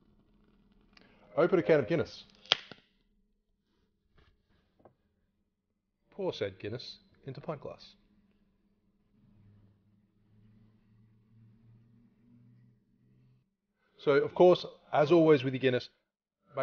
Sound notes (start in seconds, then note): 2.4 tab pops